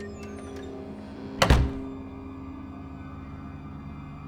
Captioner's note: door latch clicks; eerie music; door slams; eerie music